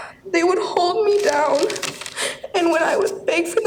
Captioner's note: crying